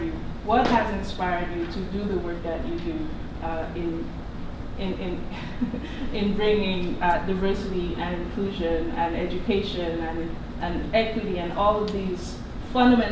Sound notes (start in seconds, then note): 5.2 laughs